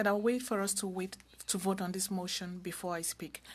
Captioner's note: speaking french